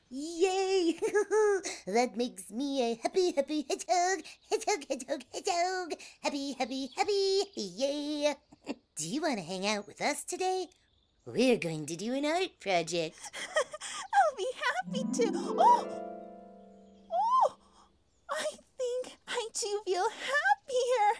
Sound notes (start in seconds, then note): 13.2 giggles; 14.8 harp glissando